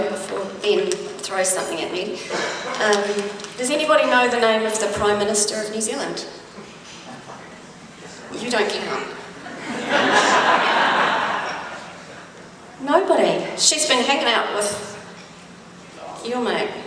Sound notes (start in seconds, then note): 9.4 audience laughs